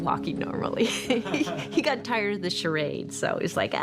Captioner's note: chuckles